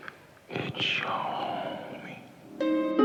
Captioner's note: whispering